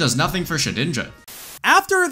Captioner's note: static